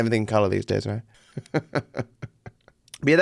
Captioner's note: laughs